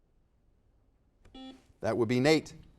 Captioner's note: buzzer dings